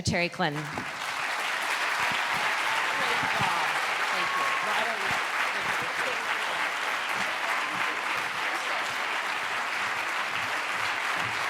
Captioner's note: applause